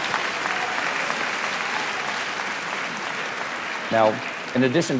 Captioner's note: audience laughs and applauding